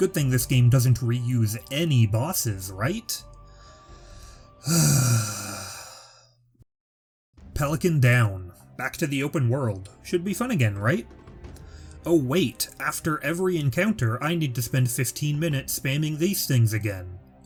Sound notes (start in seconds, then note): 3.6 exaggerated sigh